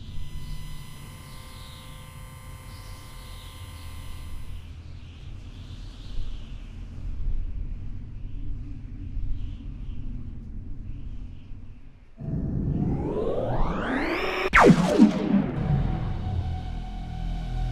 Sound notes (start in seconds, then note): 0.3 electronic ringing; 14.5 laser fires